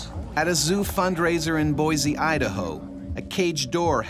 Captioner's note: voiceover